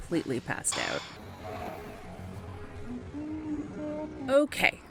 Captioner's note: pug snores